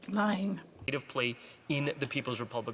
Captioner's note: speaking French